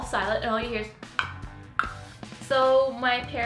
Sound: mouth clicking

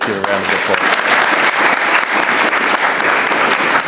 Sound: audience applauding

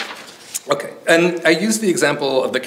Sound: pages rustling

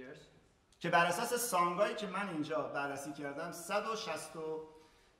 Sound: speaking in farsi

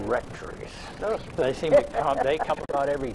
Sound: laughs

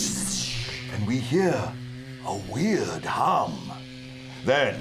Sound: weird humming

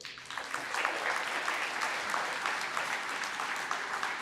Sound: applause

